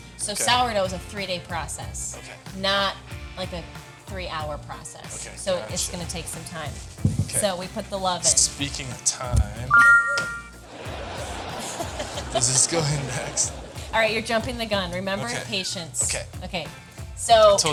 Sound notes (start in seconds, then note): 9.7 text chiming brightly; 10.6 fake audience laughing; 10.9 laughing